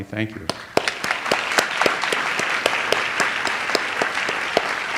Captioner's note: audience applauds